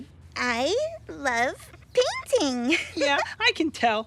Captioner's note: laughs